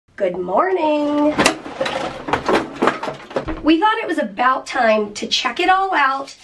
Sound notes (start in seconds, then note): 1.1 clattering